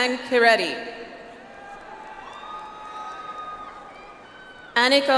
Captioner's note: audience applauds